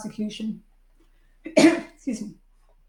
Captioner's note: clears throat